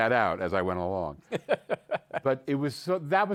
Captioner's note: laughs